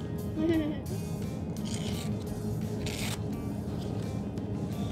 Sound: giggling; paper tearing

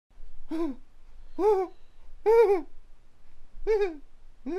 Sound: gasping nervously

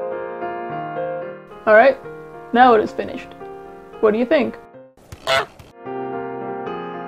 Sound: honking

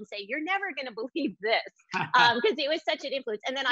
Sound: background laughs

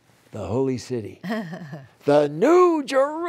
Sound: laughter

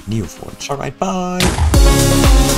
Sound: explodes

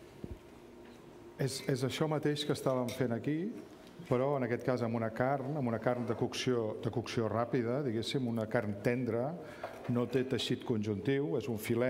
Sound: speaking catalan

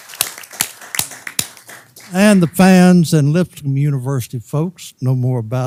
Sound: applause

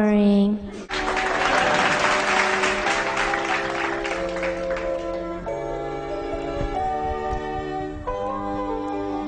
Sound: applause

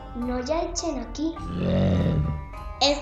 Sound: snarl

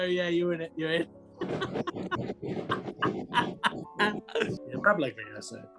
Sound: laughing

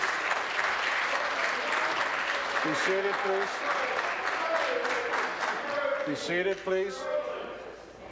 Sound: applause

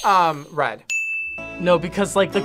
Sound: bell rings; buzzer rings

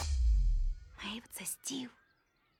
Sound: whispers

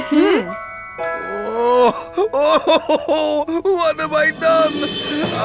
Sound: crying

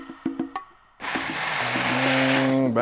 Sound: pasta clatters

